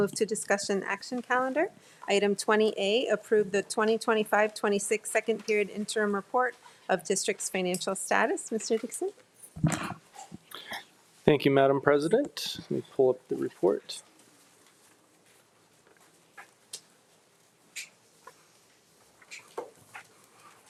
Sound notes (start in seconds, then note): 14.9 computer clicking sound